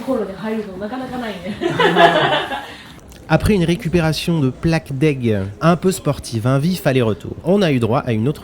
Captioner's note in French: rires